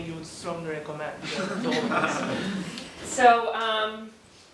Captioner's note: laugh